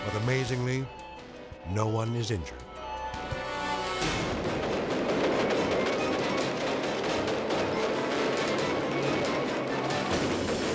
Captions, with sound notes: But amazingly, no one is injured. (fireworks exploding) (dramatic music)